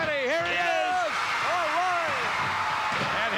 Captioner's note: audience cheering